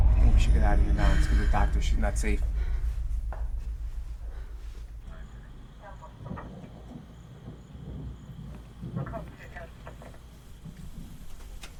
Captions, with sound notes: - I think we should get out of here now and tell the doctor she's not safe. (crickets chirping) (thunder rumbling) (police radio chattering)